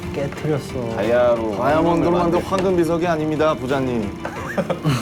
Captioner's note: rumbling